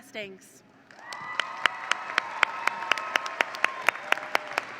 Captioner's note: audience cheering